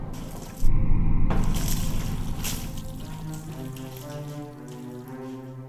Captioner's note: waves rushing; liquid sloshing; suspenseful music